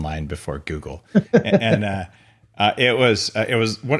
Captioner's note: laughs